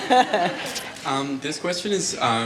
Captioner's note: laughter